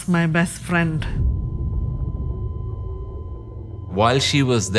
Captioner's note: cardiac monitor beeping